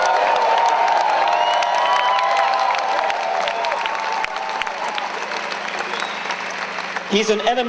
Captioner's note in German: Jubeln